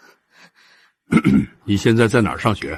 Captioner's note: cough cough